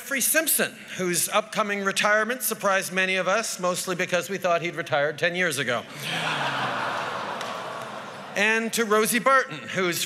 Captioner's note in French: Rires